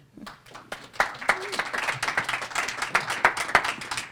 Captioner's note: applause